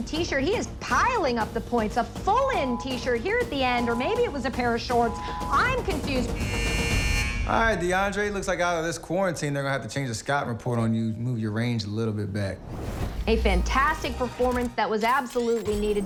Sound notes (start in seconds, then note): 4.8 timer buzzes